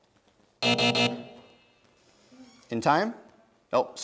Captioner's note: buzzing